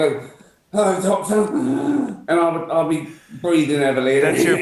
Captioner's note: wheezes